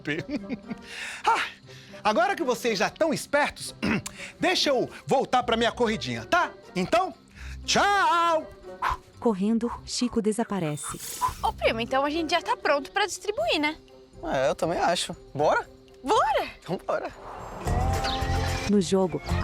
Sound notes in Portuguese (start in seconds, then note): 0.2 Suspiro; 3.8 Chico pigarreia; 8.5 Suspirando